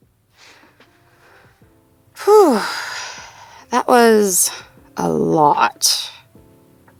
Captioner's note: fade back in, Speaker sighs